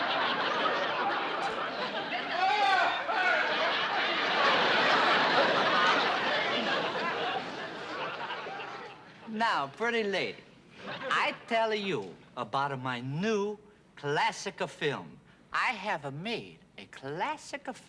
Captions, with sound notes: [ Shouting ] Now, pretty lady, I tell you about my new classic film. I have made a classic film